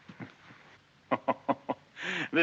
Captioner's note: maxim chuckling